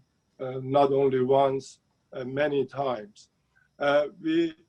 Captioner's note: speaking Farsi